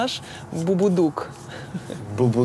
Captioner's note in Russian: смеётся